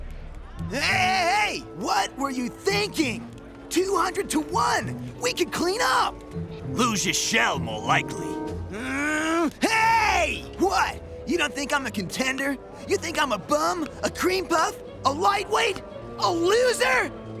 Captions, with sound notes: Hey, hey, hey, what were you thinking?! 200 to one, we could clean up. You'd lose your shell more likely. [groaning] Hey, what? You don't think I'm a contender? You think I'm a bum, a cream puff, a lightweight, a loser?